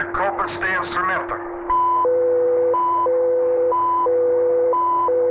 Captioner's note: soldier speaking in Russian; machinery beeping